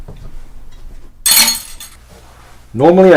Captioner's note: clattering utensils